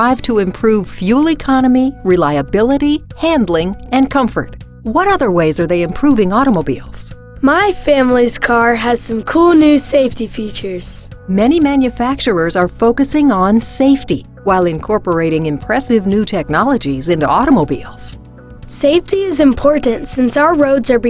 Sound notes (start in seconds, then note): 7.6 voiceover; 11.5 voiceover; 19.0 voiceover